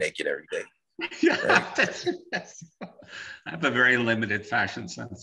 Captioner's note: laughing